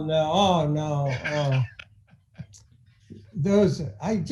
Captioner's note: laughing